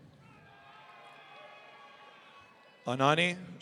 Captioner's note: audience cheering